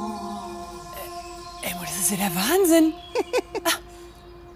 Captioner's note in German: lacht